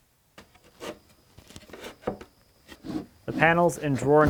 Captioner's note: wood clunks